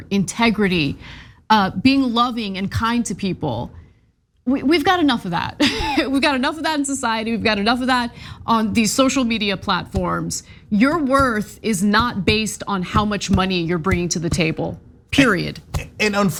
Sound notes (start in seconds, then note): 5.6 laugh